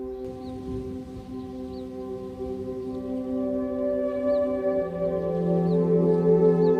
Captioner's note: light gentle relaxing music; waves crashing